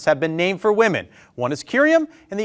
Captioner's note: none